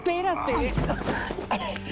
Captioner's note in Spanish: Quejido